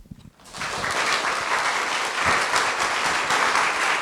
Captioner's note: applause